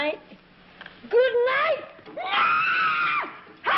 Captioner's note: screams